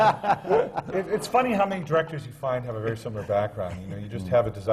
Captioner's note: laughter